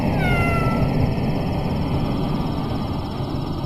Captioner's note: mysterious, rumbling music; cat meowing